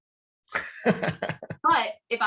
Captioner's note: he laughs